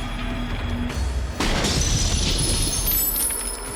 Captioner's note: gunshot